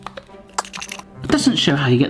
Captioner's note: container squeaks